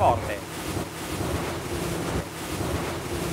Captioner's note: wind